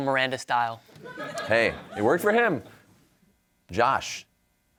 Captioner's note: audience laughing